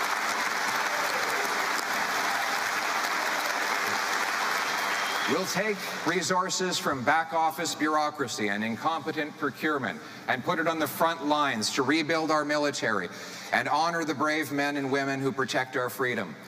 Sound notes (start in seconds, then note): 0.0 applause